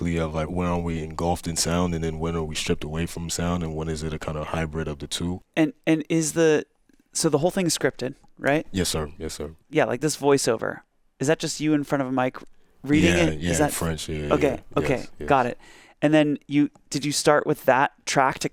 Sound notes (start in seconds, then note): none